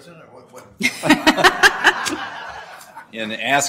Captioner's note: laughter